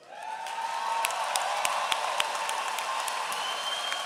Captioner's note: applause